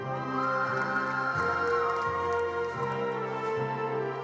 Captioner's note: attendees applauding